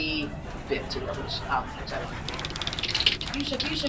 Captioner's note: wheel clicking